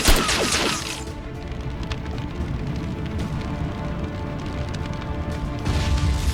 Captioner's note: flames whooshing; intense music; explosion booms